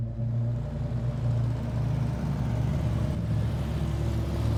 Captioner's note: engine rumbling